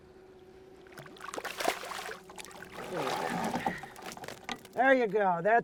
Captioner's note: fish splashing